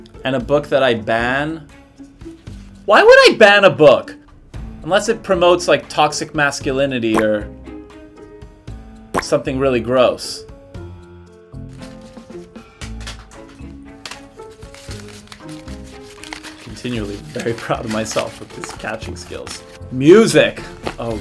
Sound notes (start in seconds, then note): 14.9 paper crinkling